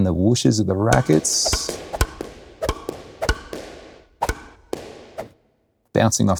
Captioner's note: racket pounding; air whooshing